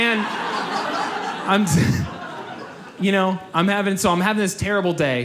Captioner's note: audience laughs